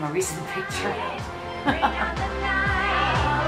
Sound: laughs

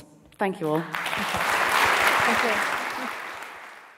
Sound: audience applauding

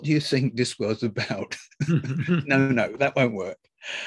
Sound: laugh

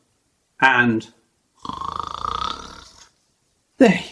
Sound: snore

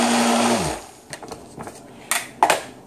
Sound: sound of blender; blender stops

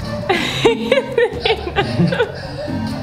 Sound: laughs

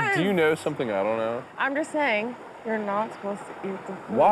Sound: quietly

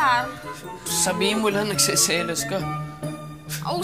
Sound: scoffs

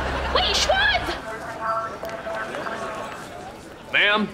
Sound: distant chattering

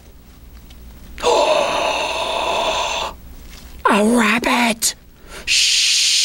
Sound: gasp

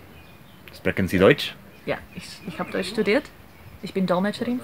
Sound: both speaking German

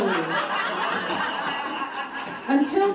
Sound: audience laughing

